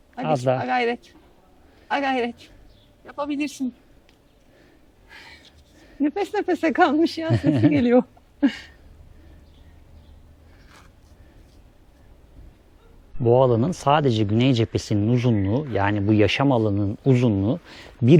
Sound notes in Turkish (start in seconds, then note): 7.2 kahkaha